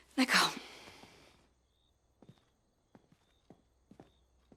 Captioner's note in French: chant des grillons